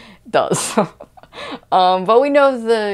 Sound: laughs at himself

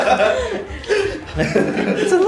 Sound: laughter

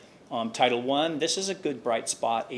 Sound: none

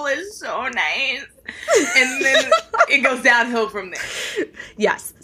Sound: laughing

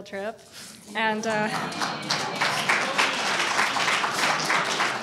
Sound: audience applauding

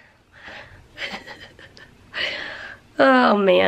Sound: giggling

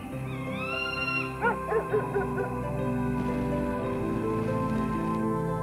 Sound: bird caws; dog barks distantly

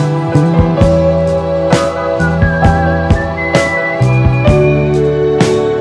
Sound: whistling

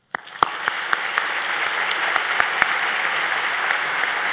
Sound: applause

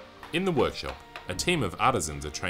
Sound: voiceover

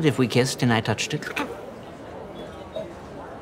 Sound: gags

